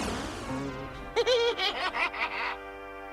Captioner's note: laughs